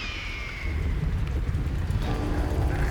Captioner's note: bird caws